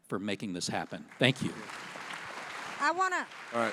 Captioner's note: audience applauding